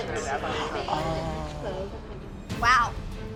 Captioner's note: gasps